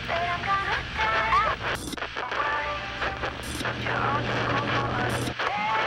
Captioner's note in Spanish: la radio cambia de canal